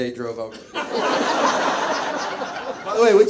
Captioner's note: audience laughs